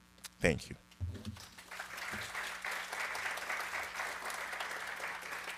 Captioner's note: audience applauding